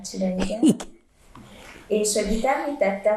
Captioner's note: laughing